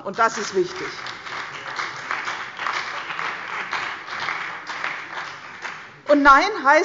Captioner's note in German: Beifall bei der CDU und dem BÜNDNIS 90/DIE GRÜNEN